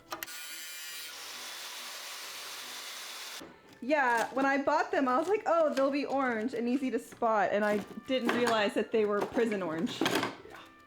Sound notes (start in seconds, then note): 0.2 saw whirring